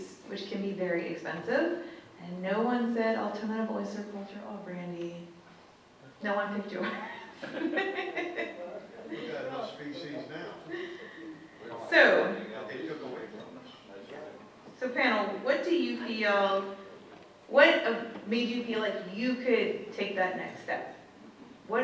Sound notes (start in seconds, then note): 6.8 laughing; 13.2 indistinct audience chatter